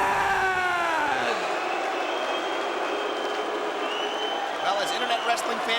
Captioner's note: crowd booing; fan whistling